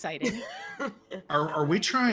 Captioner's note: laughing